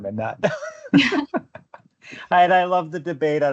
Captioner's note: laughter